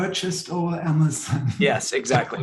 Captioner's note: laughs